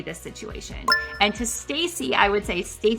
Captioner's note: retro gaming beep sound